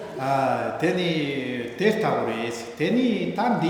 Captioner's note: speaking tibetan